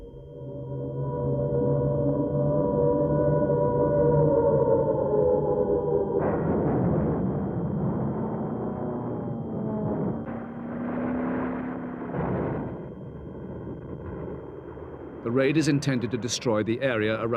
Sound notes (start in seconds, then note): 2.1 raid sirens; 6.8 loud explosions; 10.3 plane engines roaring